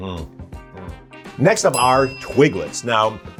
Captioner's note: bell dings